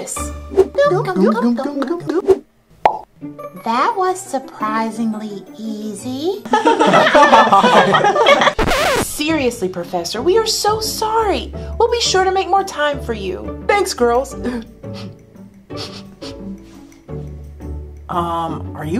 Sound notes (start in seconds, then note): 0.2 loud gulping; 2.8 popping; 6.6 laughing; 8.4 record scratching; 15.7 sniffling